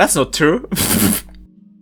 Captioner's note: pfft